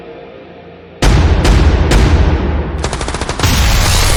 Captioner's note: guns firing; explosions booming